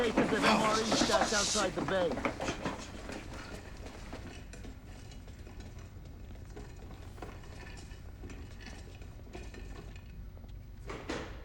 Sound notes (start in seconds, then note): 3.5 wheels rolling; 10.1 door closes